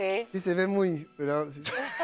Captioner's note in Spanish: Ríe